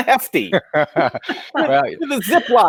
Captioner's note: colleagues laugh